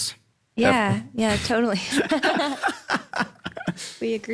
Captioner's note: laugh